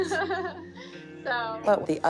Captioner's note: laughs